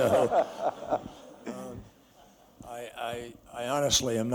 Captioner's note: laughter